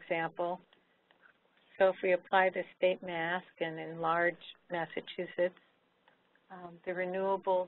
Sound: someone whispers to Barbara

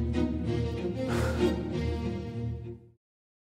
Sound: sighs

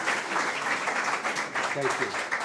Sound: audience applause

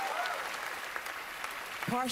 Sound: cheering, applause

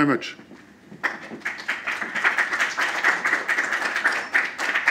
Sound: applause

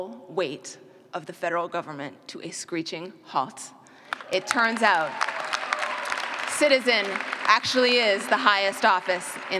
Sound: clapping

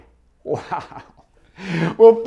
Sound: laughs

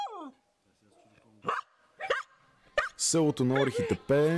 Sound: dog barks in Bulgarian

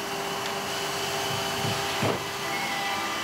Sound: machine noise

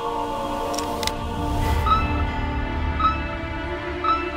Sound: clicking sound; beeping

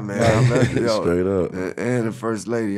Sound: laughing

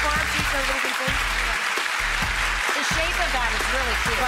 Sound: audience applause; pop music

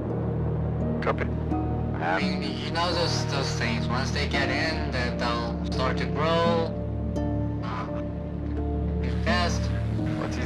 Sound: on the radio; on the radio

